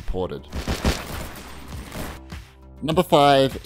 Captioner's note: gun fires